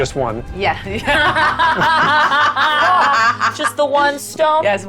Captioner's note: chuckling